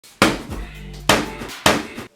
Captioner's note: smack